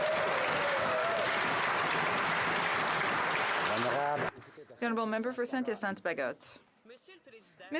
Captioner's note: applause